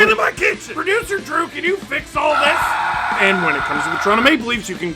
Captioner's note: screaming